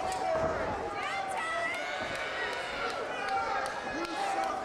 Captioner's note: crowd yells